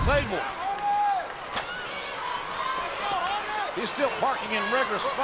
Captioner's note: audience chattering